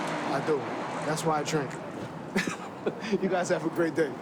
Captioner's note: laughs